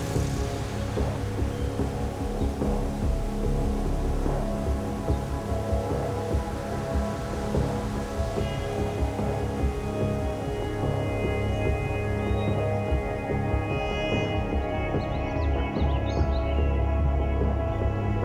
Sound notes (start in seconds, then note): 12.9 birds chirping